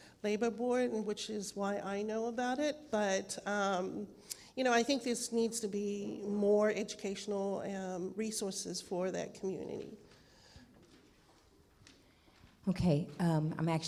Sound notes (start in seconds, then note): none